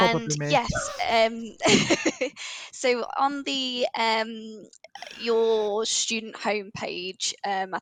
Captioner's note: laughs